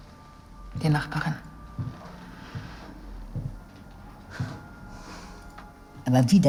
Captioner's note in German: Schritte